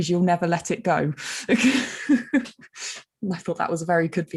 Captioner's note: chuckling